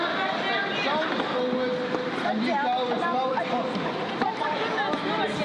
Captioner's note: background chatter echoes